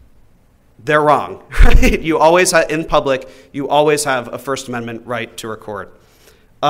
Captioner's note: laughs